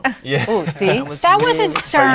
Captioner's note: laughing